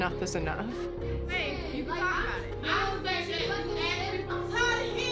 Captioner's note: yelling